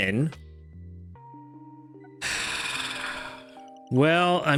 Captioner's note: sighs